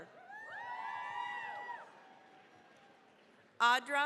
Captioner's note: cheering, applause